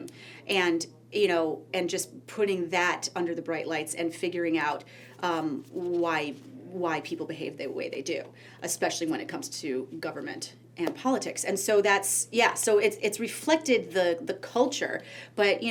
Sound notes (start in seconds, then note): none